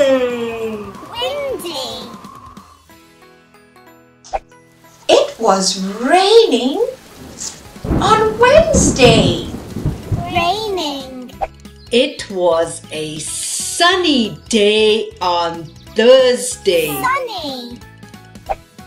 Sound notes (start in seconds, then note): 0.2 windy; 9.5 raining